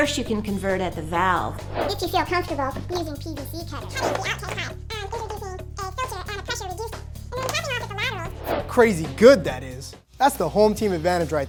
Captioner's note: begins speaking in a speeded up chipmunk voice